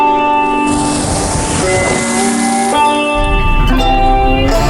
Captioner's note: dirt rustling